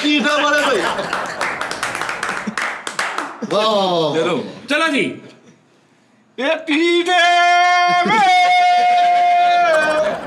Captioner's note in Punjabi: ਤਾੜੀਆਂ